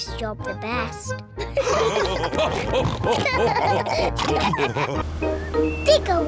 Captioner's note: all laughing